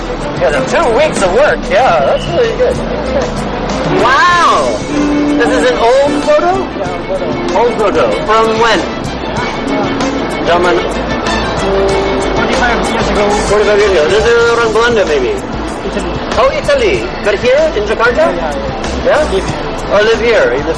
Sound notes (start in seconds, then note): 14.1 non-english speech